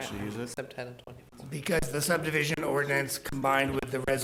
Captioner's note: board chatting quietly